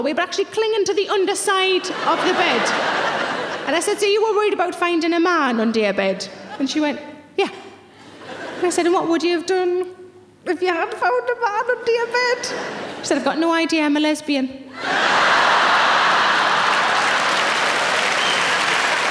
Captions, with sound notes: but actually clinging to the underside of the bed. And I said, "So, you were worried about finding a man under your bed?" And she went, "Yeah." I said, "And what would you have done "if you had found a man under your bed?" She said, "I've got no idea. I'm a lesbian." (audience laughing)